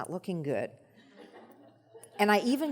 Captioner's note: audience laughs